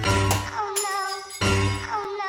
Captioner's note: ceramic mug shatters